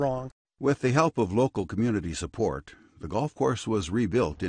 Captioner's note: voiceover